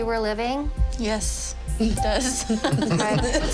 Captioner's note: chuckling